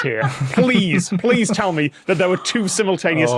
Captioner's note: laugh